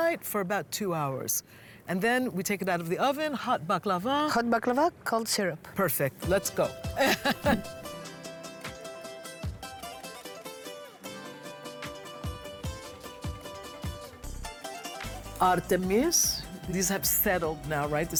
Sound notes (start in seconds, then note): 6.8 laughs